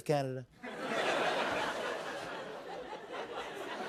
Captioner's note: laughter